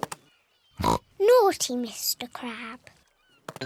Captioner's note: oinks